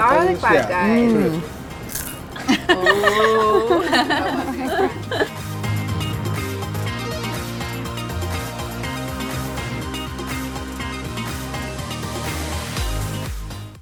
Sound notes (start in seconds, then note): 1.8 fry crunches; 2.3 women laugh